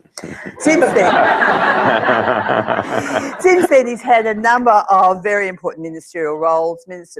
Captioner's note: laugh